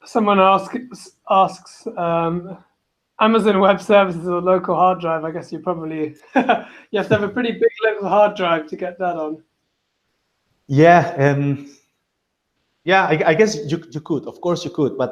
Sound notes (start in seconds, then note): 6.1 chuckles